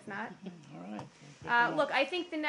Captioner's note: laughter